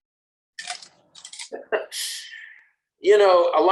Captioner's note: chuckles